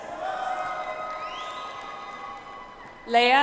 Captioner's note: audience applauds